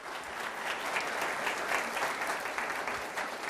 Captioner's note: applauding